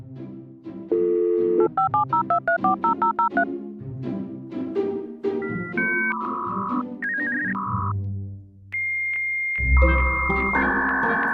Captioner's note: sound of old dial up internet